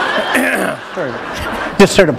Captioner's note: laughter